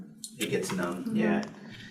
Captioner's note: none